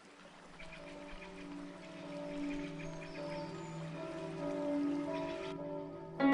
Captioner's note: church bells